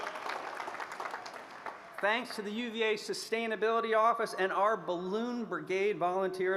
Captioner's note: applause